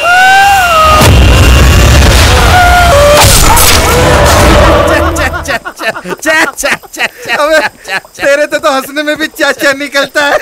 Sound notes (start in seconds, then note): 0.0 Screaming; 3.1 Bumping sound; 4.5 Laughing